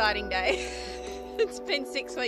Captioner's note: laughs